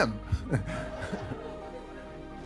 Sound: laughter

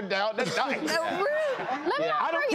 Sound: laughter

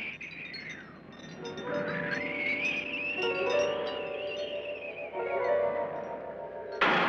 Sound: wind whistles; chandelier rattling; ominous music; suspenseful music; bang

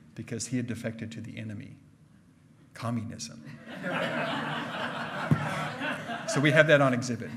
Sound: hearty laughing

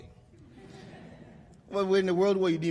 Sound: laughter

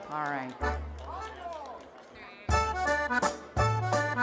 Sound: chattering

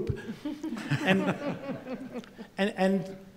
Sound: laughing

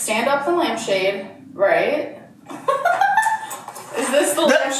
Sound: laughs

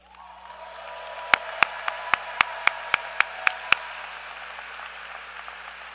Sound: applause

